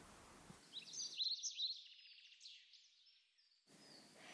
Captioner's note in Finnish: linnut laulavat